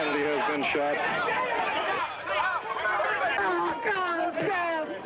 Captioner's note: crowd clamoring